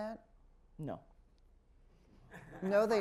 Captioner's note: laughter